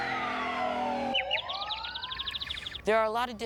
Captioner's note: siren wailing, tires screeching; bird chirping